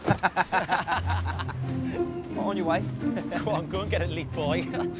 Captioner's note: boys laughing